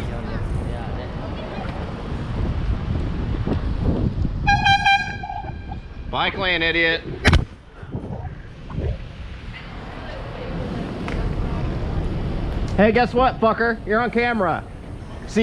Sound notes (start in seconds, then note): 4.4 airhorn